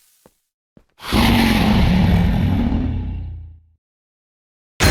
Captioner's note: Jean roars